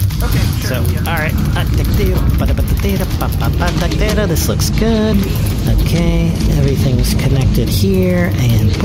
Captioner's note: humming and flipping through instructions